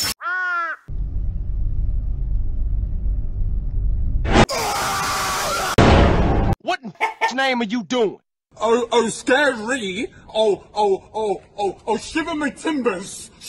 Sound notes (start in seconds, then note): 7.0 chicken or dog noise